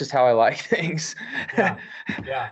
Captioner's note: laughs